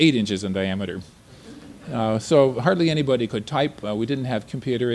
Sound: laughter

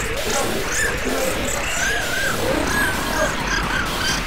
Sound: panting

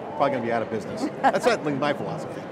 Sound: laughter

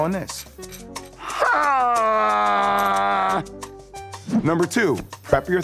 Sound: Jay yells

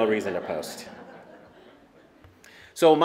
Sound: laughter

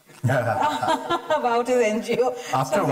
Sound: laughter

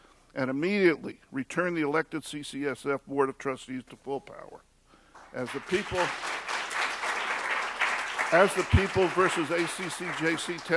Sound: applause

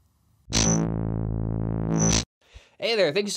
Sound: buzzing

